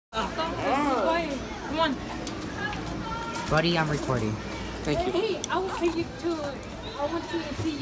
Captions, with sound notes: (People Talking) Bubby Im Recording